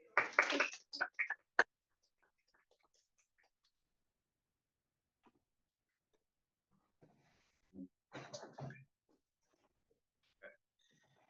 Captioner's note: applause